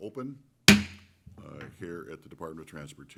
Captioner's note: taps gavel